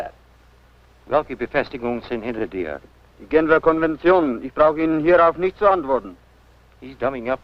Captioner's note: foreign language